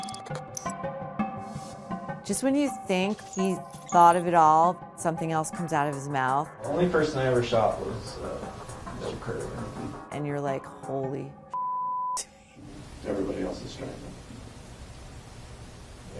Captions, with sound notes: Just when you think he thought of it all, something else comes out of his mouth. The only person I ever shot was Bill Currier. And you're like, holy (beep). Everybody else was strangled?